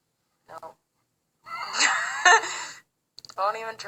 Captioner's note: both laughing